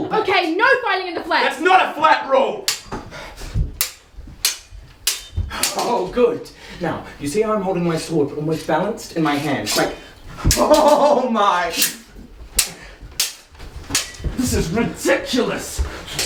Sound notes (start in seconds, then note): 2.8 clanging, heavy breathing; 12.5 swords clanging